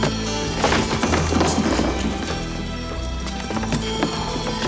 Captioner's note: door thuds